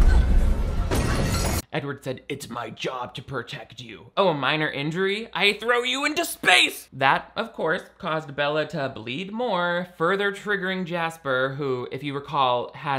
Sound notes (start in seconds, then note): 0.9 glass shatters